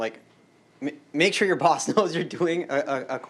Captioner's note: laughter